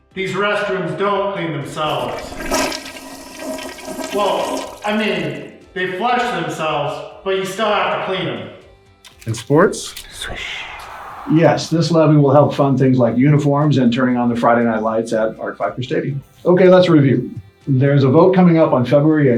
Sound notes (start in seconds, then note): 1.8 toilet flushing